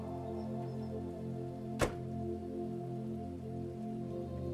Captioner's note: door closes